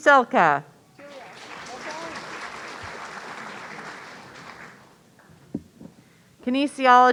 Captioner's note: audience applauding